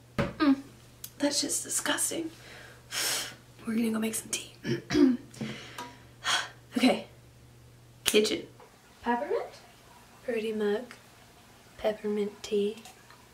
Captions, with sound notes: Mmm that shit’s disgusting. We’re gonna go make some tea. *sighs* Okay. *Snaps* Kitchen! Peppermint. Pretty mug. Peppermint tea.